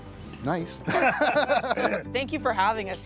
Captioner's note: laughter